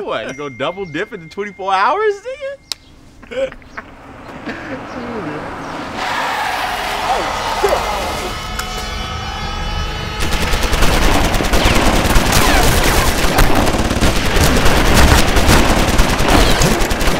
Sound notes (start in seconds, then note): 7.8 tires screeching; 10.1 dramatic music; 10.2 guns firing